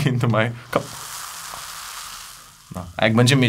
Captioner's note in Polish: musowanie w kubku